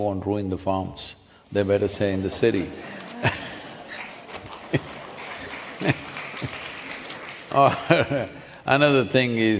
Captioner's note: laughter/Applause